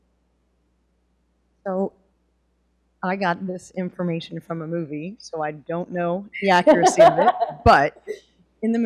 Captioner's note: laughter